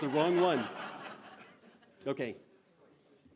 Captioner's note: laughter